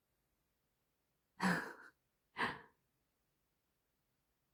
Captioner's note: laughs